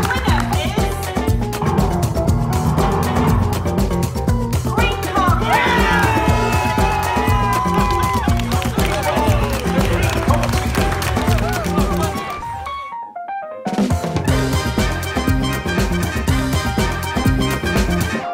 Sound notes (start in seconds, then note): 4.9 cheering